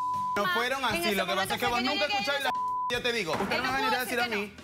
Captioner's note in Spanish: Bip